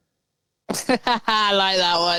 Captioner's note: laughs